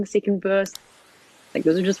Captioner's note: waves crashing